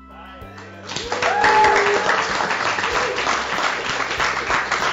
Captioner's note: applause